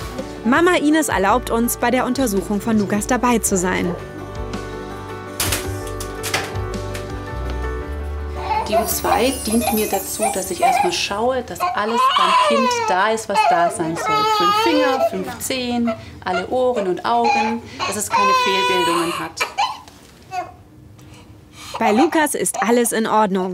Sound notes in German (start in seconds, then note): 4.7 Bewegte Klaviermusik; 13.3 weint